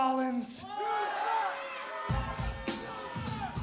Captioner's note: crowd cheering